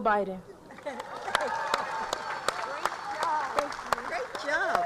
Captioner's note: applause